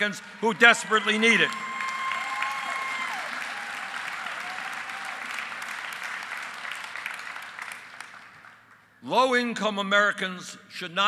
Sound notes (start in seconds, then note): 5.5 applause